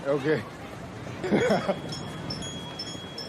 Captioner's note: bell ringing